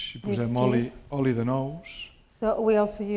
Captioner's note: speaking spanish